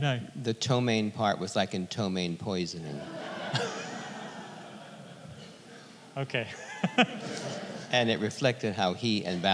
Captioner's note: audience laughter